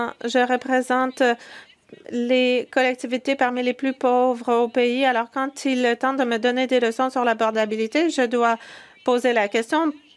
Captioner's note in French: voix de l'interprète